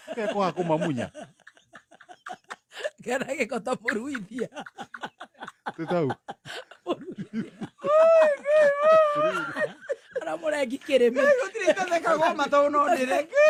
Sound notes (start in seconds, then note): 0.0 laughter